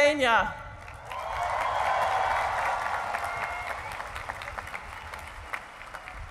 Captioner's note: cheering and applause